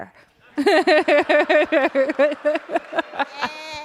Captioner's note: laughter